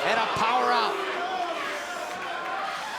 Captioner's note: crowd chatter